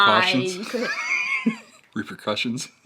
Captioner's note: laughs